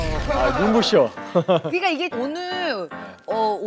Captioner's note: chuckles